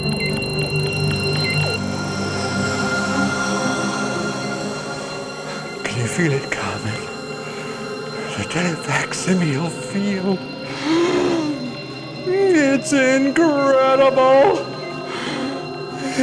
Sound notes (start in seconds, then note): 0.2 ethereal music; 10.6 gasps